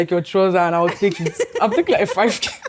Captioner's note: laughs